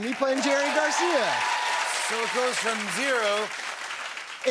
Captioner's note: cheers and applause